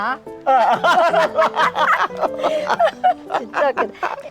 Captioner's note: both laughing